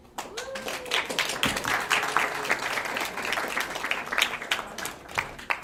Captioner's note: attendees clapping loudly